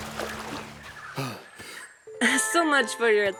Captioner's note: exhales